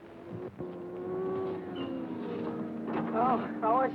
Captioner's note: cars revving